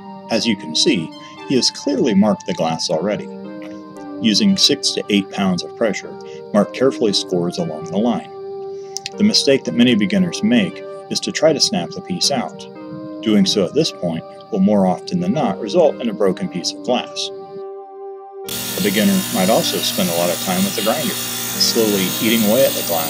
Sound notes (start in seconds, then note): 18.5 grinding Sound Begins